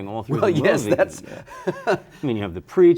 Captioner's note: laughs